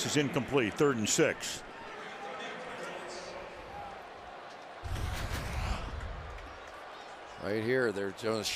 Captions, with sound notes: And the wobbly pass is incomplete. Third and 6. [pa announcement] Right here.